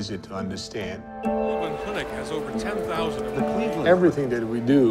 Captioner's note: ambient sound of news anchors